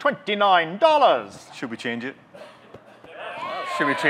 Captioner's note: audience cheers; audience: Yeah! Cheers